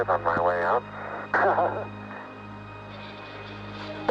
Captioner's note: Armstrong laughs